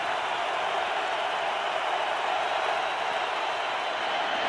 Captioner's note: crowd cheering